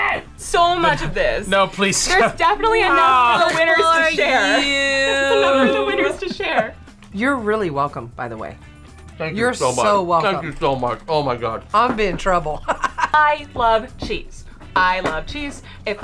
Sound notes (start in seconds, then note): 2.0 laughs; 12.6 laughs